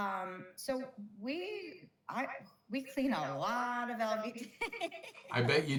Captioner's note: laughs